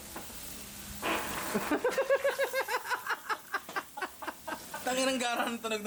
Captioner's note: farts; laughter